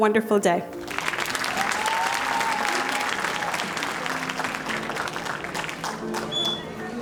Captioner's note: audience applauding and cheering